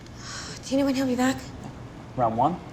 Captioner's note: sighs